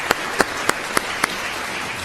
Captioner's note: applause